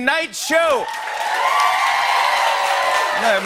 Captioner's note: cheering and applause